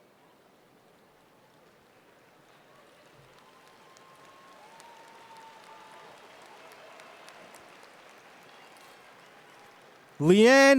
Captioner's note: cheering and Applause